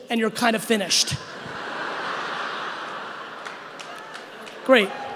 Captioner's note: audience laughing